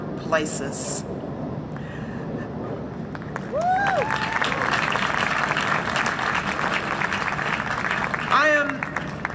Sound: huge Applause and cheering

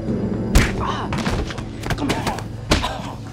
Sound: door shutting; fist punching

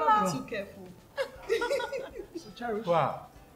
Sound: laughs

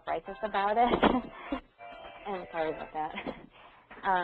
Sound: laughs

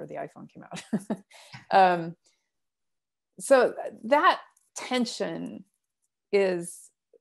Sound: laughter

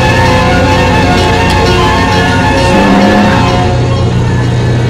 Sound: tongue clicks

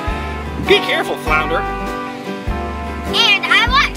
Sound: voiceover

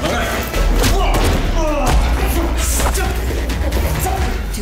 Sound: punching

